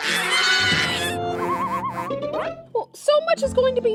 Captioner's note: Melba shrieking